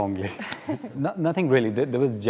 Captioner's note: both chuckle